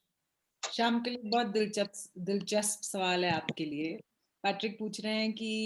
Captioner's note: speaks foreign language